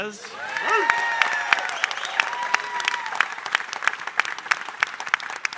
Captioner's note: audience cheering and applauding